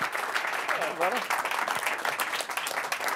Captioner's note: applause